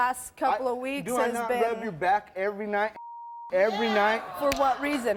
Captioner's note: beep